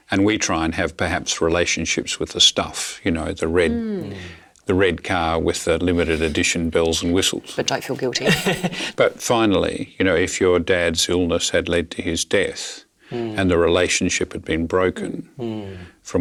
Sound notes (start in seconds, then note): 8.2 Richard laughing